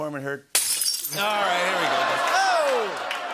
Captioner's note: glass breaking; laughter, ohs, and applause